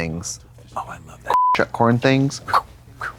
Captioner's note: beep